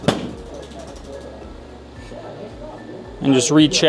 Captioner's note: table parts clicking; people chattering distantly